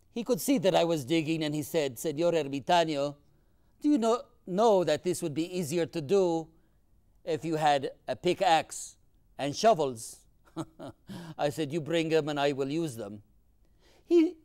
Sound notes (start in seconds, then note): 10.5 laughs